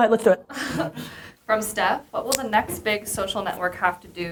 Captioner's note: laughs